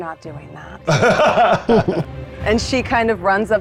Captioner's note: laughing